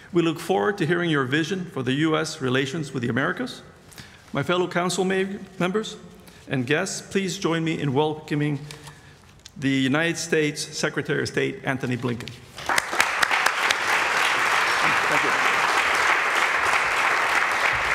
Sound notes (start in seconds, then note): 12.6 applause